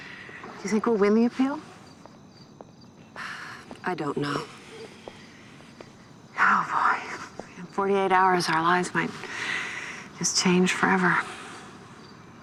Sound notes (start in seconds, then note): 3.1 sighs; 4.2 exhales